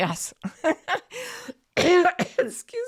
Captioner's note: coughs